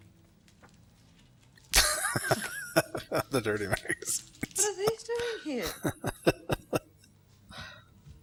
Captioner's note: laughing